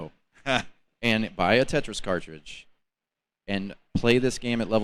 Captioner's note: laughs